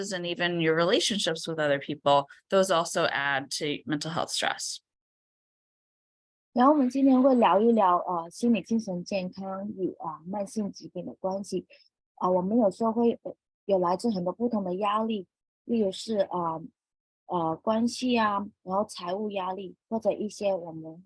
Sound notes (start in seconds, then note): 6.5 speaking chinese